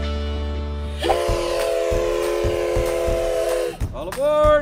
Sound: train whistle

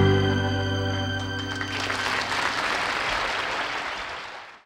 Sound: audience applauding

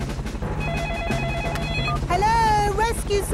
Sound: phone ringing

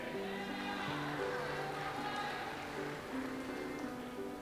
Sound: audience applauds

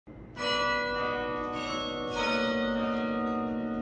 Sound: bells dinging

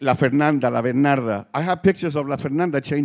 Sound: speaking Spanish

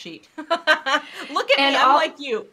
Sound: both laughing

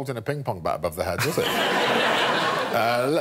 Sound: audience laughing

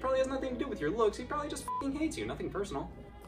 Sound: beep

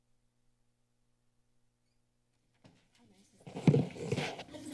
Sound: mic rustling

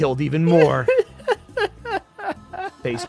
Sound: laughs

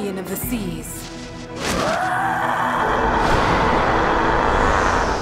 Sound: Lugia shrieks

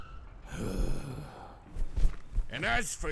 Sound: Satan sighs

